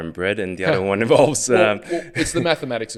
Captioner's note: laughs